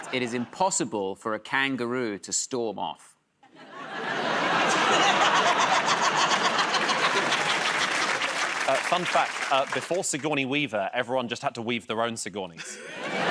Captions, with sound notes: -Fun fact -- it is impossible for a kangaroo to storm off. [ Laughter and applause ] -Fun fact -- before Sigourney Weaver, everyone just had to weave their own Sigourneys.